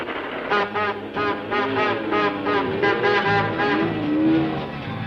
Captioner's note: horn honking